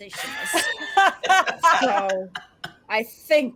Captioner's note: all laugh out loud